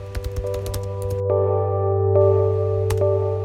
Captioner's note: keyboard Typing